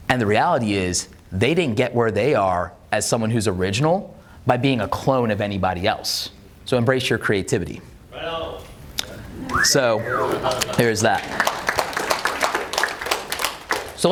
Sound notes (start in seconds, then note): 9.4 audience member whistles; 11.9 audience claps